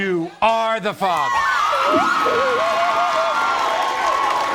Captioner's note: audience cheers